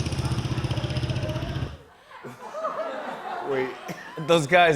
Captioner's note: laughter